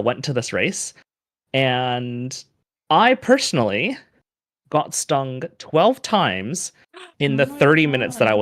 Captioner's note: gasps